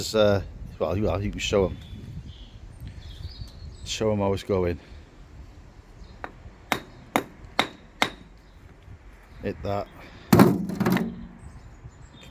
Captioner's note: tapping